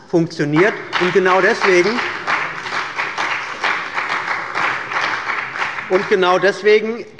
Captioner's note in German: Beifall bei der CDU und dem BÜNDNIS 90/DIE GRÜNEN